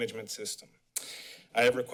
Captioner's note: smacks lips